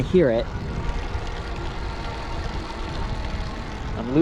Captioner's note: eBike motor revving